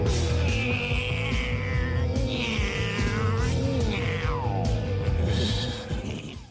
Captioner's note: upbeat music; Beavis mimicking car revving